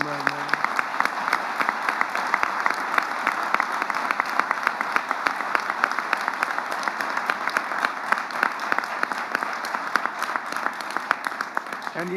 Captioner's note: applause